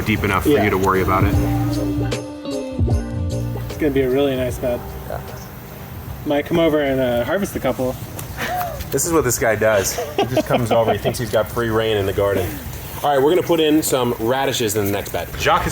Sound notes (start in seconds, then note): 1.8 upbeat music; 9.7 laughing